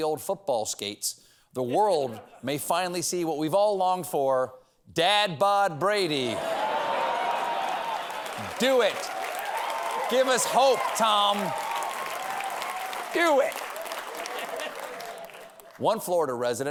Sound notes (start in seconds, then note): 7.2 cheers and applause; 12.0 applause